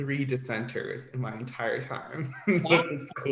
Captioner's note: laughs